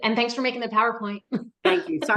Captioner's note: laughs